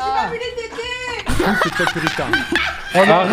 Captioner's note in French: explose de rire